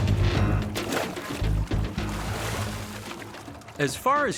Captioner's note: water splashing